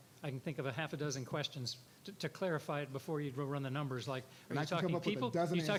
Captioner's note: none